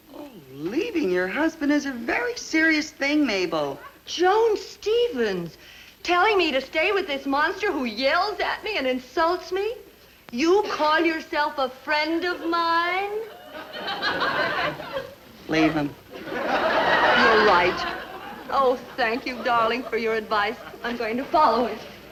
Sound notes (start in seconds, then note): 12.3 audience laugh